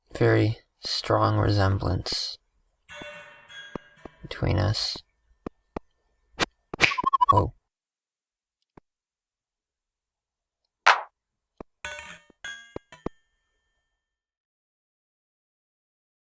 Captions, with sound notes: A very strong resemblance (dishes clinking) between us. Whoa. (dishes clinking)